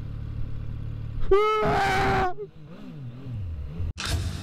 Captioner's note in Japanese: 絶叫